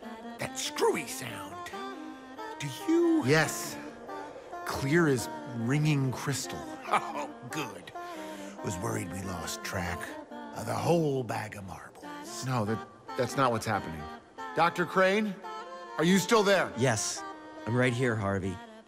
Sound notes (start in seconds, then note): 6.7 laughing